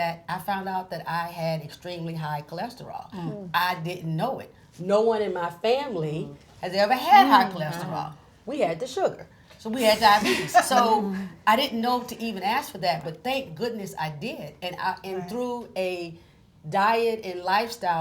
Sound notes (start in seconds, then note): 9.9 chuckles